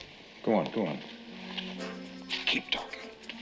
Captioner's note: whispers